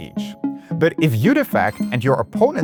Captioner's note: coins clinking; audio chimes